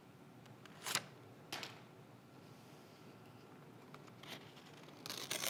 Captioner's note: page thudding